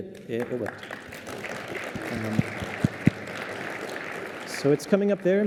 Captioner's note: applause